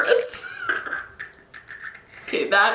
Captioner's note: laughing